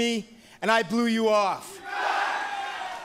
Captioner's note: fans chanting